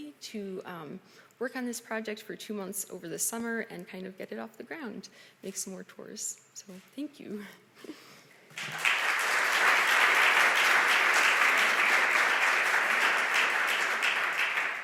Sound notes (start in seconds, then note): 8.5 audience applause